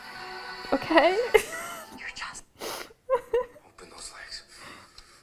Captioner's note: giggling